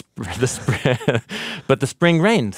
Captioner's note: laughs